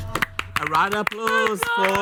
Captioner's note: group applauds